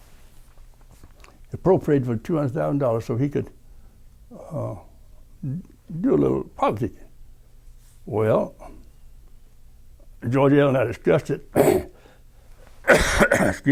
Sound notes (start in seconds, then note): 12.8 coughing